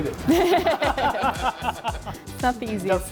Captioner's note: chefs laughing